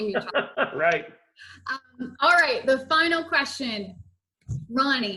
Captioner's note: laughs